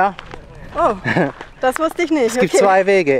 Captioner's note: laughs